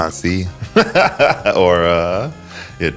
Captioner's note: laughs